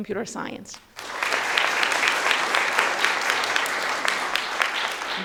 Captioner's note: audience applauding